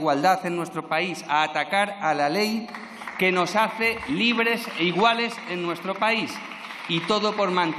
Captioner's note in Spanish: aplausos